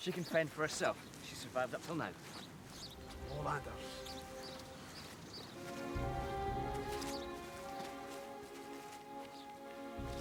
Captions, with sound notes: - She can fend for herself. She's survived up 'til now. (man speaks foreign language) (dramatic music)